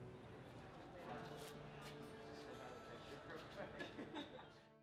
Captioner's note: background conversation